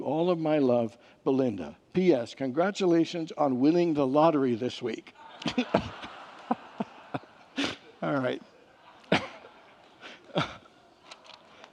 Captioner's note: congregants laugh